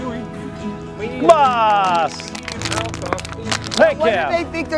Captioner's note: crinkling